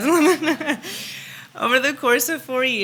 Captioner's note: laughs